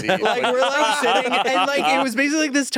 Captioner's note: group laughing